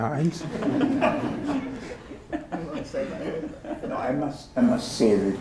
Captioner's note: laughter